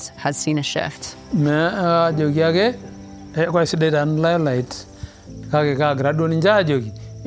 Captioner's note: speaking in foreign language